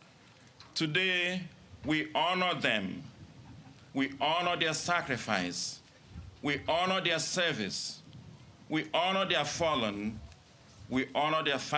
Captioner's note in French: Voix en Anglais